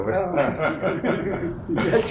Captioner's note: laughter